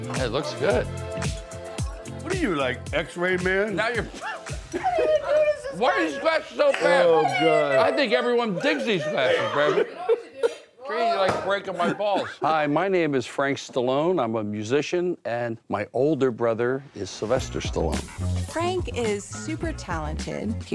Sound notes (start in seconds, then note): 4.8 group laughs; 10.3 girls chatter